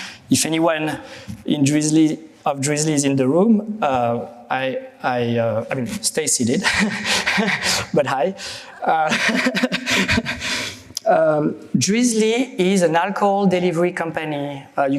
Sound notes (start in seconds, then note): 8.9 chuckles; 9.0 laughter